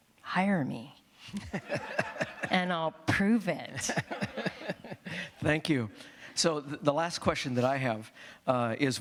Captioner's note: laughter